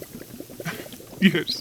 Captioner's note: Snape chuckles